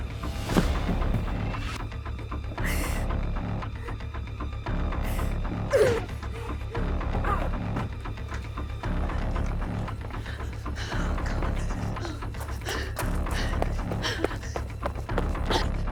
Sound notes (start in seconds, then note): 0.4 Sue thuds to the ground; 2.5 Tina whimpering; 5.7 Tina grunts; 8.1 Tina panting